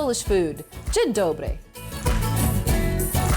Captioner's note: speaking Polish; upbeat music